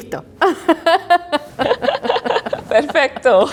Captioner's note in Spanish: riendo